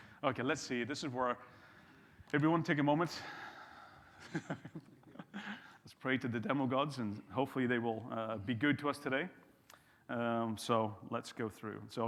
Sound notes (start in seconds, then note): 4.2 chuckles